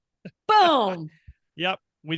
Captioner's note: laughing